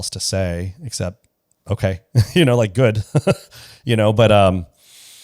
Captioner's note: laughs